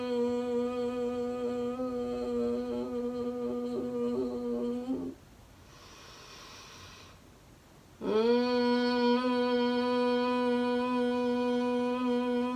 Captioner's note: exhale humming bee sound